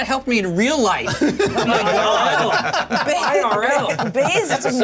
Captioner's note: laughter